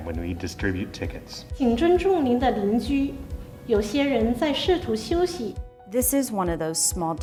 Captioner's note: speaking foreign language